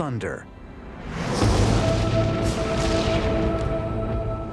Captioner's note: thunder crashing